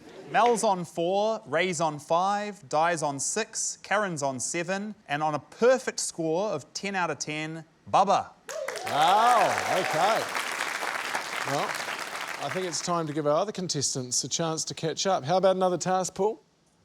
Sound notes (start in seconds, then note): 8.5 cheering, applause